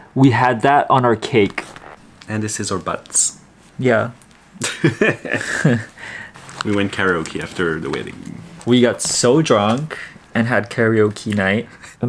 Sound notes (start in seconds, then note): 4.6 both laughing